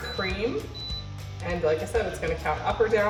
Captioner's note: mixer beeps